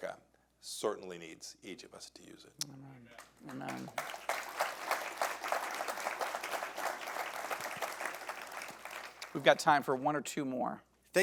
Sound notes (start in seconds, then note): 3.2 audience applauding